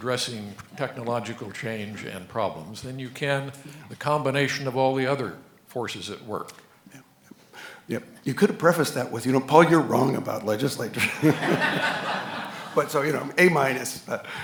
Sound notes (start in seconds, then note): 10.9 audience laughing